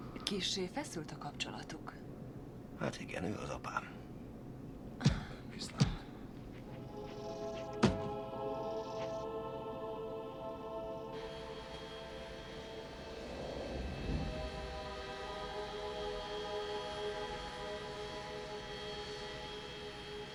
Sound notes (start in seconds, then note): 5.8 thumping; 7.4 thumping continues